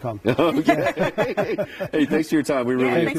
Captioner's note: laughing